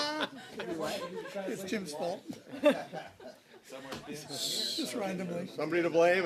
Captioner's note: laughter